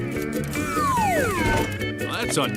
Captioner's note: whistle